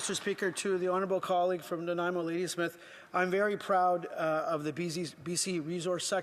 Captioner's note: applause